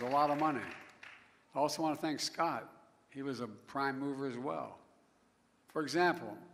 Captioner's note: applause